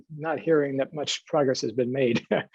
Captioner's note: brief laughter